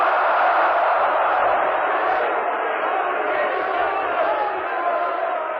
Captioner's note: crowd chanting